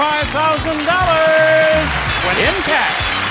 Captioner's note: audience applauding; upbeat music